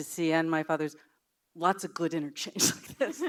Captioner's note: laughs